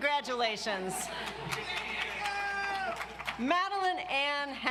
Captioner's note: audience applauds